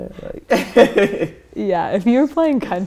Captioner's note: laughter